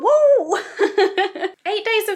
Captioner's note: laughs